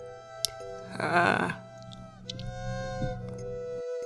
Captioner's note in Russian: клик-клик